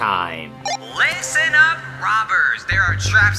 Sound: device rings

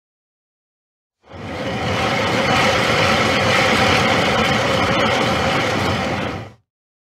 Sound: spinning sound

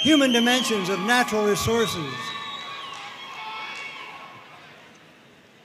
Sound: audience cheering and applauding

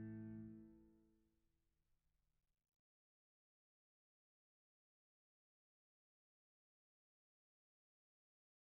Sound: silence

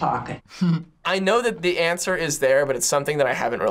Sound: chuckles

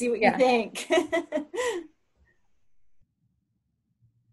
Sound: laughing

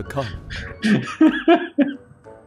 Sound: laughs

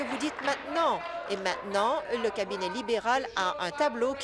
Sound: applause

